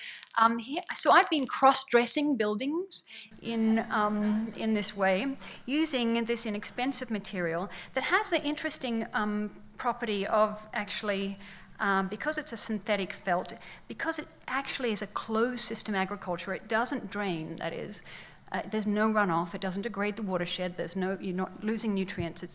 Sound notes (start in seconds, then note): 3.4 laughs